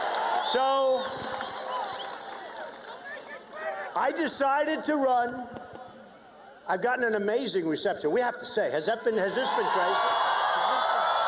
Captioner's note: cheers and applause